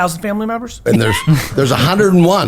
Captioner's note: laughs